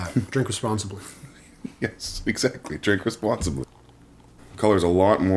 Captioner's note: chuckles